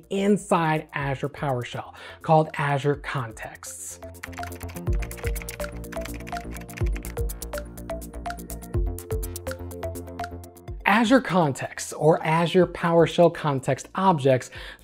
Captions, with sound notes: inside Azure PowerShell, called Azure contexts. (upbeat music) (keyboard clicking) Azure context or Azure PowerShell context objects